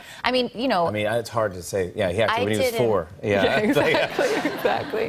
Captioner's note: light laughter